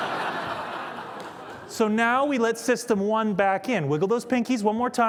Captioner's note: laughter